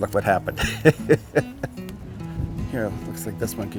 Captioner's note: laughter